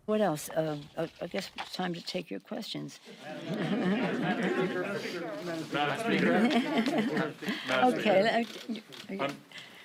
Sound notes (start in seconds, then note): 3.6 Nancy laughs; 3.6 reporters asking questions